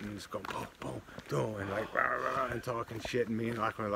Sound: makes sound effects

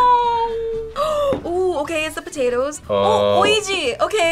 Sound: gasps

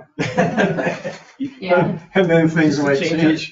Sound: people laugh

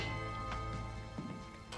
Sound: doorbell rings

